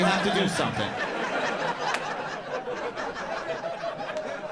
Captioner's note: audience laughing